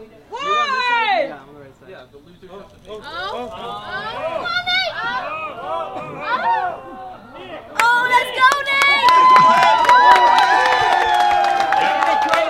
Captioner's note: cheering and clapping